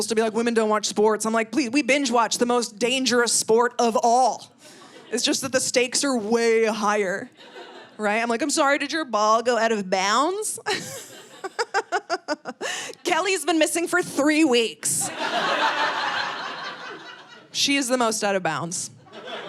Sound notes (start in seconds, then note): 10.6 laughing; 15.0 audience laughing